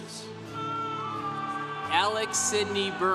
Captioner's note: congregation cheering